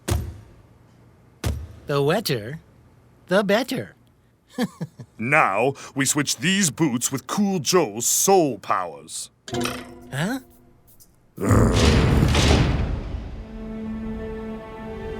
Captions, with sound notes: (shoe thudding) - The wetter the better. (laughs) - Now we switch these boots with Cool Joe's Sole Powers. (watch springing) - Huh? (grunting)